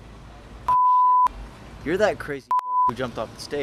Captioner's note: beep